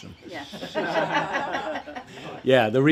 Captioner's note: audience laughs